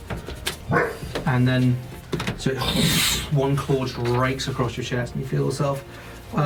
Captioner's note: dog barks offscreen; slashing sound